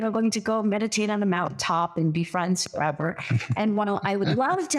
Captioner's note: laugh